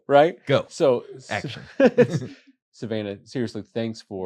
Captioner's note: laughter